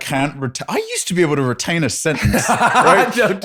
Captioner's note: laughs